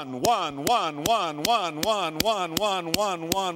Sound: slap

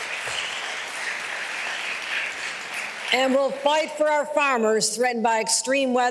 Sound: applause

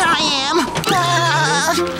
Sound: laughing

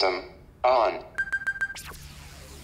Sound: beeping

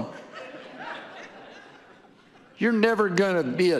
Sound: audience laughing

